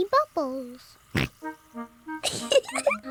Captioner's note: oinks; giggles